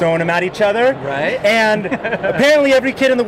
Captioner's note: laughing